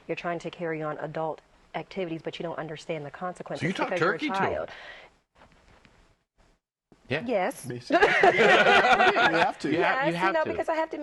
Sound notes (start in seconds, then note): 7.9 laughter